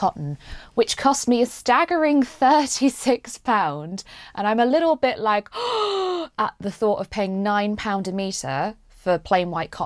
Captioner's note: gasps